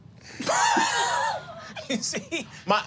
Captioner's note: laughing